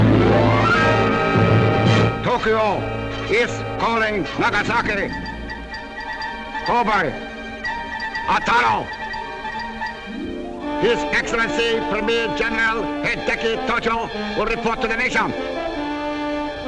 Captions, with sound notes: - [Voiceover] Tokyo is calling Nagasaki, Kobe, Otaru. His Excellency Premier General, Hideki Tojo, will report to the nation.